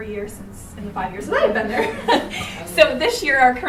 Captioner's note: attendees chuckling